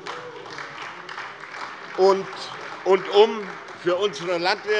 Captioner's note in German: Beifall